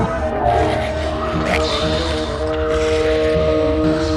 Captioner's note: growling